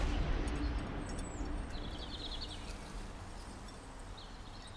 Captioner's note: birds chirping